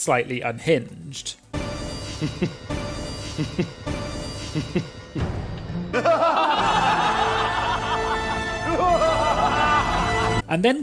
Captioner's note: laughing